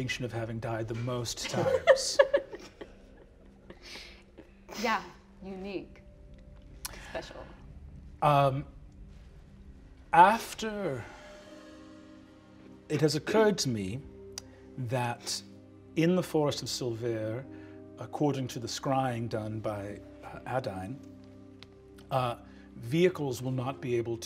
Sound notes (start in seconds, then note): 1.4 laughing